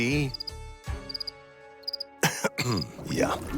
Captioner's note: crickets chirping